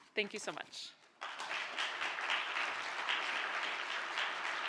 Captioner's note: applause